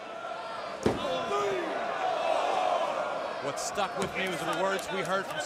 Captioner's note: crowd cheering